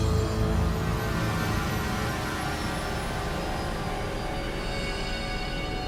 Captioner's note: sinister music; airplane engine roaring